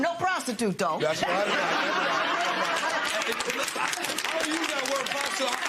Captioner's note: laughter